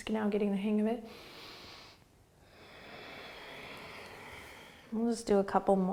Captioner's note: deep breathing